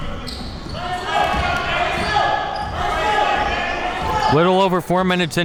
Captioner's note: people yelling